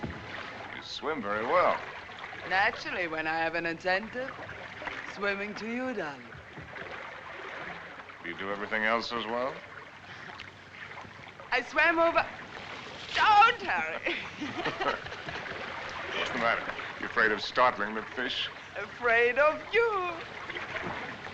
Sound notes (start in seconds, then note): 13.6 both Laughing